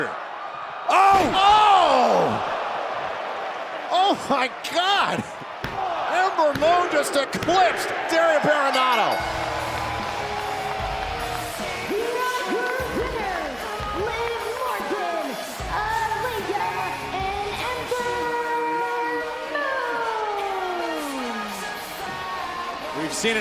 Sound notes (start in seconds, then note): 8.6 bell ringing; 10.2 crowd cheering